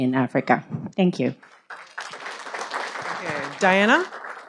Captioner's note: audience applauding